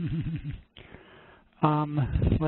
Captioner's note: chuckles